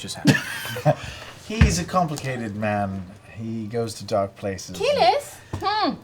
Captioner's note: laughs